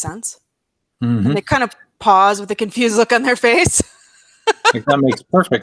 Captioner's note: laughs